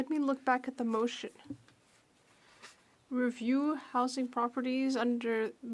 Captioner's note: speaking French